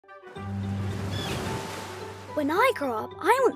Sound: lively music; gulls cawing

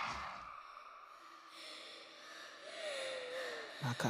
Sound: Esi gasping for breath

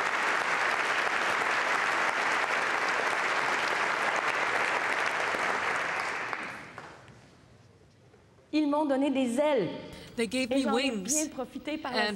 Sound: applause

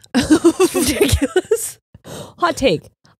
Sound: both laughing

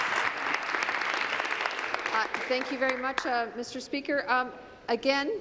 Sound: applause

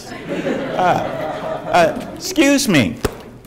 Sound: audience laughs

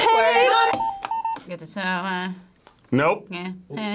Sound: buzzer rings

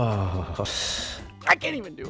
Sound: deep inhale

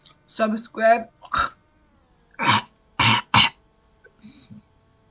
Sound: chokes

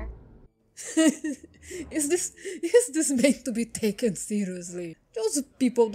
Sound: laughing

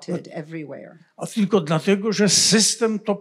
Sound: foreign language

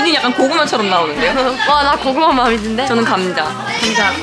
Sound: hahaha

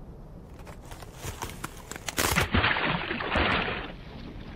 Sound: ice cracking

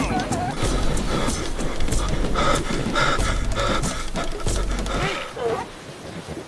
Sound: heavy Breathing

